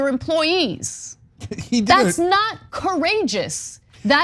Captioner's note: laugh